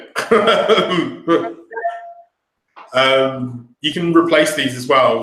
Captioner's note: laughing